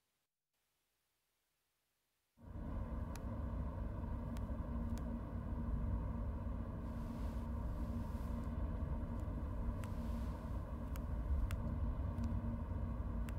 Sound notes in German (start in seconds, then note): 2.5 Fahrgeräusche